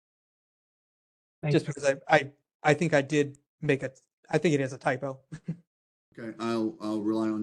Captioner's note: laugh